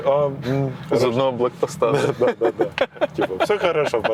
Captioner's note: laughs